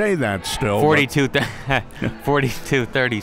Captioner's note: laughs